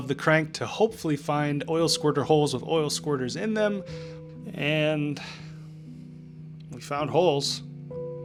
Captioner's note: sighs